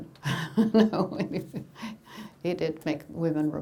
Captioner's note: laughing